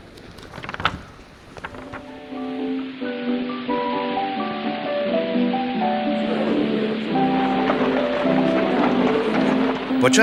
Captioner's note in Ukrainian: оплески